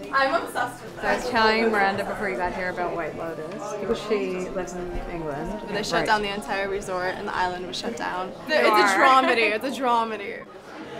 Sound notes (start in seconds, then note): 8.7 laughs